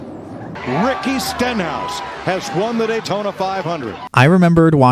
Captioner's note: crew celebrating